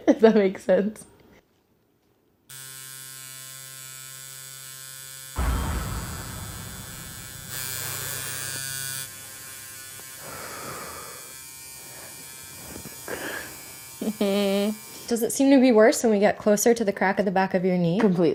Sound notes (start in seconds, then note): 2.5 tattoo needle buzzing; 10.2 breathing